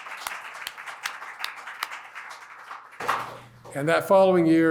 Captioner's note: applause